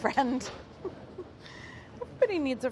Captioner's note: laughing